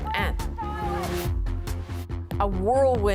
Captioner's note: chanting